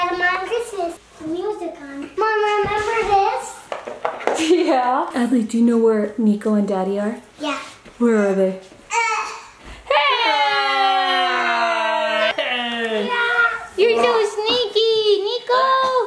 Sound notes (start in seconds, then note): 9.8 all yelling